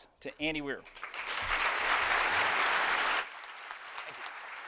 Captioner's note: applause